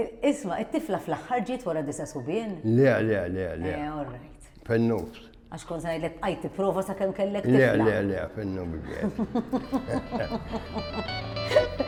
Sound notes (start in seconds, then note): 8.7 both laugh